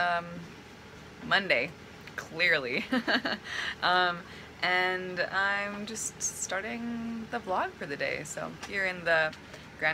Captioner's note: laughs